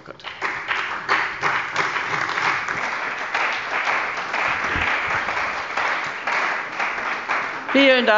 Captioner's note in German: Beifall bei der CDU und dem BÜNDNIS 90/DIE GRÜNEN